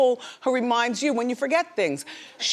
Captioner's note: none